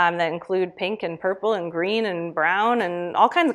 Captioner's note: none